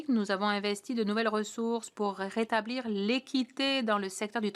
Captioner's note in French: voix de l'interprète